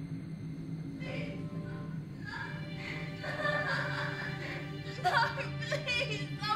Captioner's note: sobbing